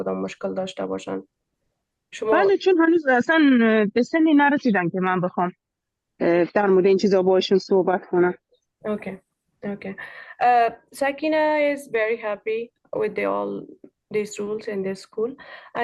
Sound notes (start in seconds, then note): 2.6 speaking in Dari